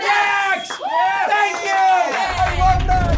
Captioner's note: all cheering